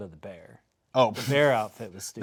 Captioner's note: laughing